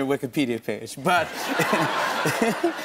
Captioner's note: laughter